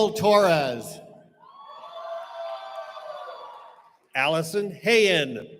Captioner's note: cheering